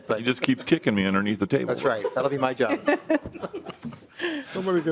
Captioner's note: laughing